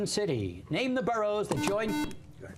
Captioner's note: buzzer